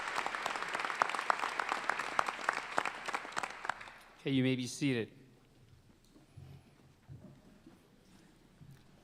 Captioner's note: applause